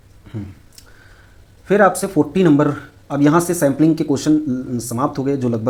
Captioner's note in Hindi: गला साफ़ करने की आवाज़